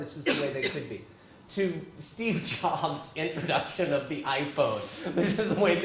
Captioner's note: laugh